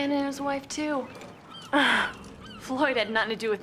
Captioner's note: chuckles